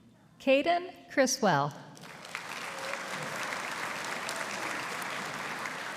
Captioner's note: audience applauding